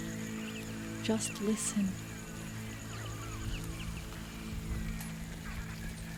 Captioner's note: birdsong escalates